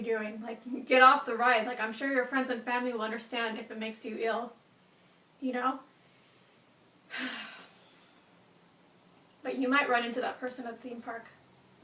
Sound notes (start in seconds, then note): 7.1 sighs